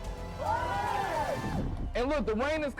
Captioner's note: cheering